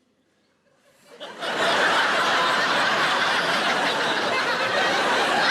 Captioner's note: audience laughing